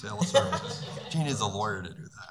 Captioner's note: laughing